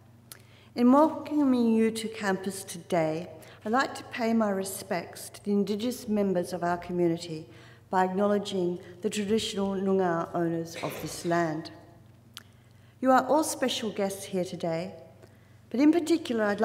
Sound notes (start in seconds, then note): 9.1 foreign word spoken